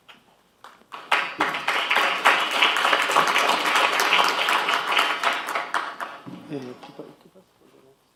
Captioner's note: applause